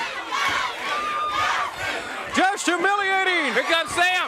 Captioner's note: crowd cheering